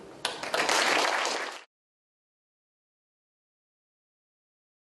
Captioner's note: audience applauding